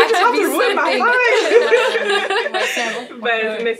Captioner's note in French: rires